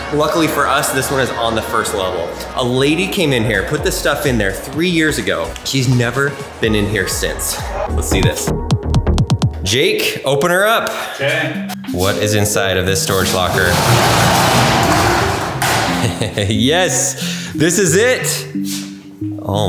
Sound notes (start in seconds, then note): 8.8 upbeat music; 13.5 door clatters open; 15.8 laughs